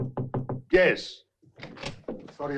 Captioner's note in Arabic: يطرق